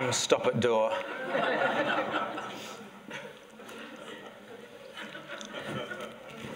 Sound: laughter

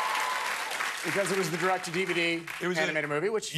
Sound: cheers and applause

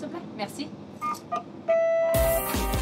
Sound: electronic beeping; bouncy jazz music

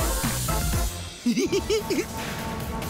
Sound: giggling

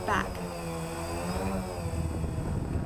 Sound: whirring drone engine; rushing wind

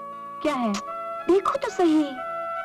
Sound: clicks tongue

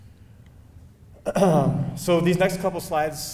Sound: clearing throat

